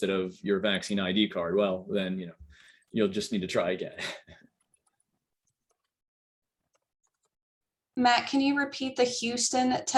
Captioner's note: laughter